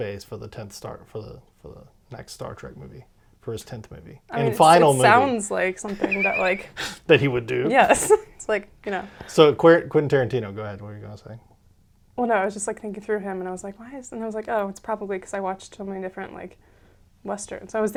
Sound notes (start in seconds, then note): 5.8 laughs